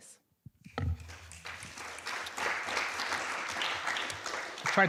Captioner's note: applause